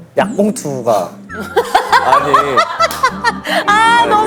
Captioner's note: sigh